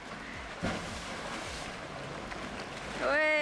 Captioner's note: waves crashing